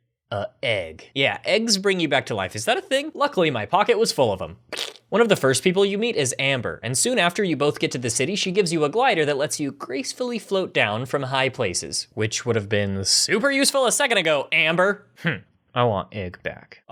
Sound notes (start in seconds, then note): 4.7 squish; 15.4 huff